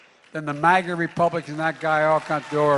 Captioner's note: audience applauding